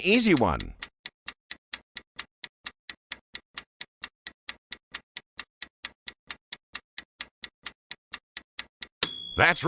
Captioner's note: sound of stopwatch ticking